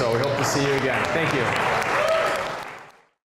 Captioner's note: applause